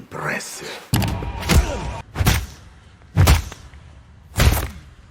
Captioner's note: punching repeatedly